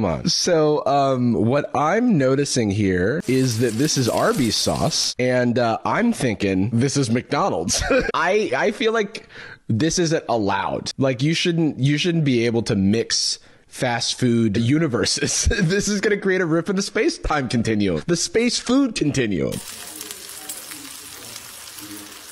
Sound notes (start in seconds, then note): 7.7 laughs